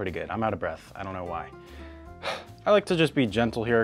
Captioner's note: sighs